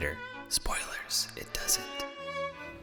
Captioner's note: whispering